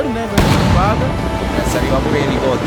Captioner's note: explosion